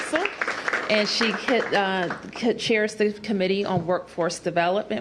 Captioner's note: applause